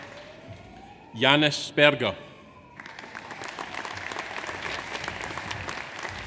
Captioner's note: audience applauds